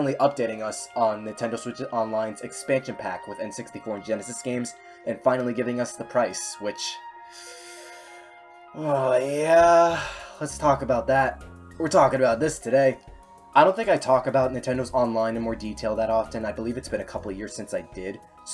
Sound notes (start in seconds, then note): 8.9 seethes